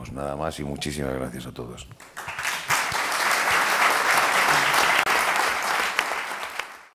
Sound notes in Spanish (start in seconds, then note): 2.0 Aplausos